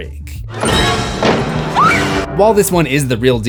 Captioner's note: screams